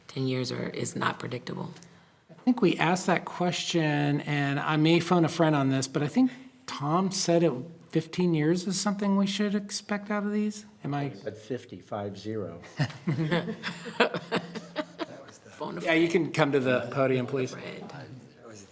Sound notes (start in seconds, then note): 12.7 everyone laughs